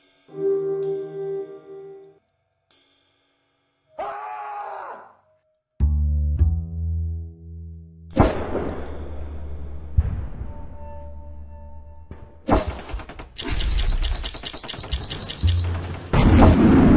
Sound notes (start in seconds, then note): 3.9 Leonard Screams